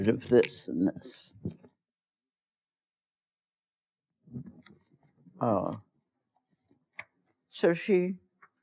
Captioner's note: pause